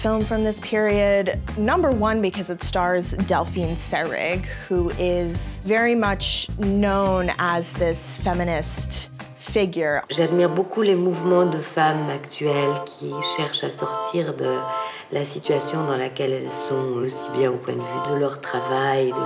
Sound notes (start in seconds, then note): 10.0 ethereal music; 10.1 speaking in French